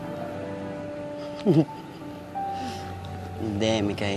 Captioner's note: chuckles